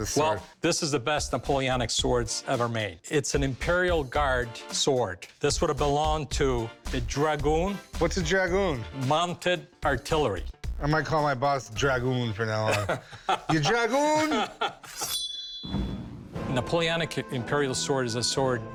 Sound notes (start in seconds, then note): 12.6 laughs; 14.9 unsheathing sword rings out